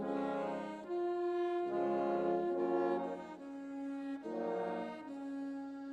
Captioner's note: none